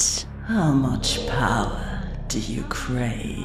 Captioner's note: echoing